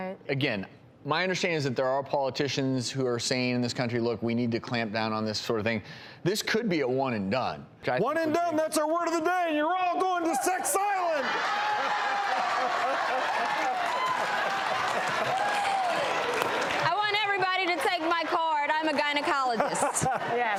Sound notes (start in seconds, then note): 11.2 laughs; 13.2 booing; 13.2 cheering